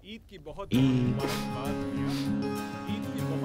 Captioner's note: Laughs